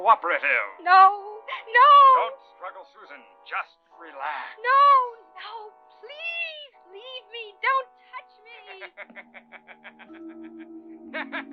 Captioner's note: laughter